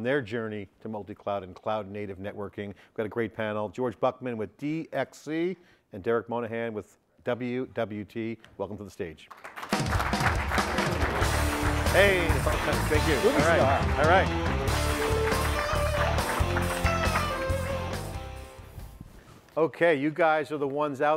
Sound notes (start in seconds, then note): 7.7 audience applauds; 15.6 upbeat music